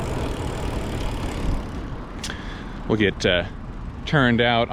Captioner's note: wheels whizzing